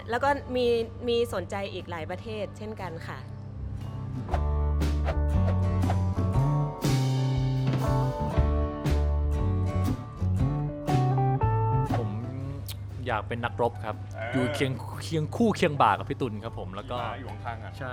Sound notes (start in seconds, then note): 14.5 cheering